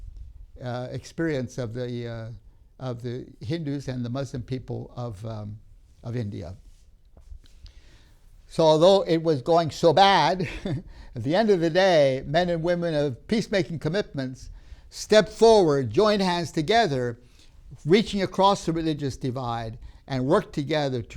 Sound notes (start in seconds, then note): 10.3 laughs